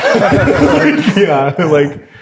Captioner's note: players laughing